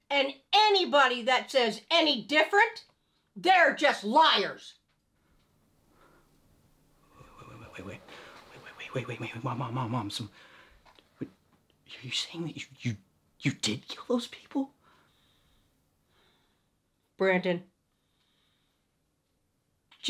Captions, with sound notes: And anybody that says any different, they're just liars. - Wait, wait, wait, wait... wait, wait, wait, wait, wait, wait. (stutters) Mom, so you're saying that you, you, you did kill those people? - Brandon,